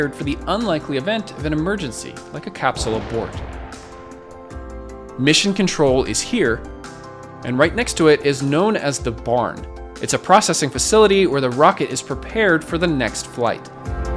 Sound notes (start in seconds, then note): 2.7 rocket humming; 13.9 lively music